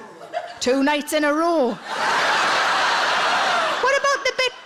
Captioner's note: audience laughing